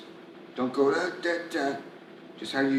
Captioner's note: imitating voice